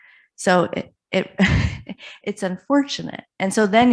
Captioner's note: chuckles